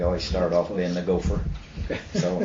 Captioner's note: laughter